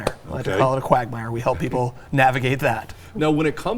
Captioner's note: chuckling